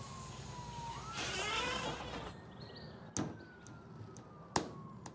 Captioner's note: distant siren wailing